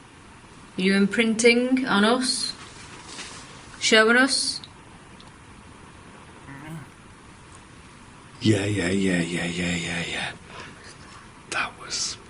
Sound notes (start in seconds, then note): 6.4 low groan